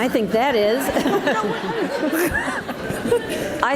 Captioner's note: audience laughs